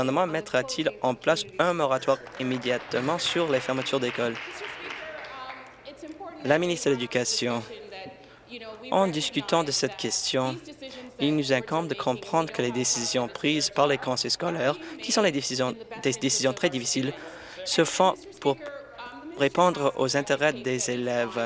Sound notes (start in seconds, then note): 5.8 applause